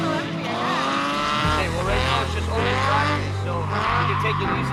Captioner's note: engines rev